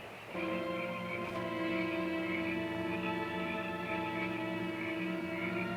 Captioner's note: insects chirping; suspenseful music